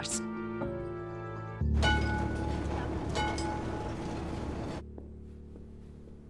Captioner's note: trams sound